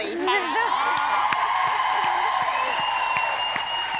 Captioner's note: audience cheering